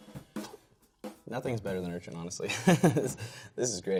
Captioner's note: laughing